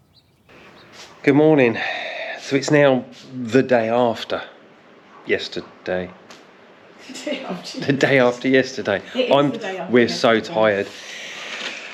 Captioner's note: laughter